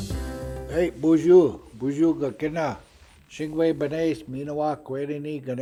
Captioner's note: speaking in native language